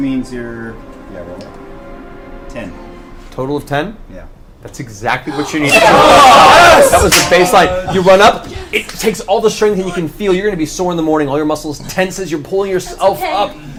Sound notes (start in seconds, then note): 5.2 all cheer